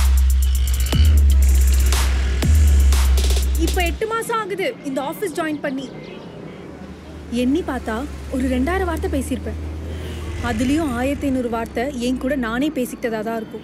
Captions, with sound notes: (vehicle sounds on the road) It’s been 8 months since I joined this office. Totally I would have spoken about 2000 words. Out of that, I would have spoken 1500 words to myself.